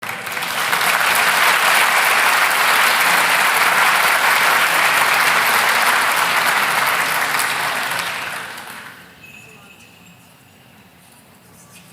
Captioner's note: applause